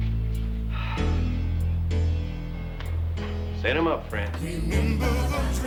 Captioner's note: uplifting music; sighs